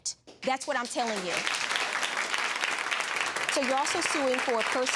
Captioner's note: audience applauds